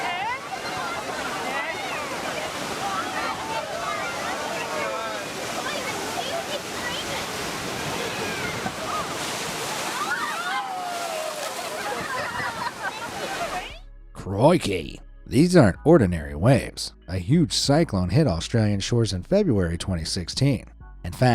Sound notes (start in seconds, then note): 0.6 swimmers shouting; 9.7 swimmers shouting; 9.7 waves crashing